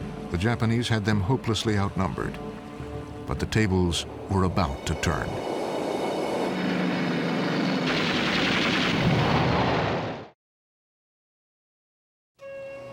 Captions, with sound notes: The Japanese had them hopelessly outnumbered, but the tables were about to turn. [gunfire] [explosion]